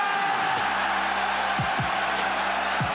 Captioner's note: cheers and screams